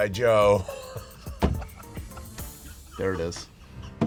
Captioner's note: laughter